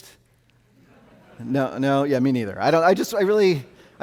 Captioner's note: audience laughing